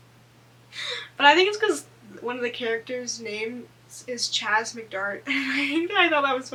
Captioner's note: laughs